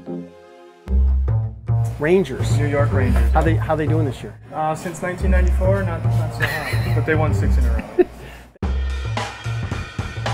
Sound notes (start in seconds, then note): 0.0 music change; 6.4 laughter